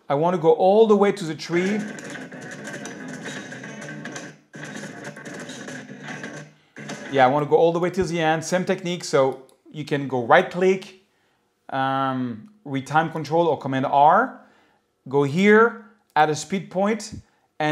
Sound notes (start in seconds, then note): 1.5 sound effects